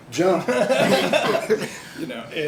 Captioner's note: laughs; laughter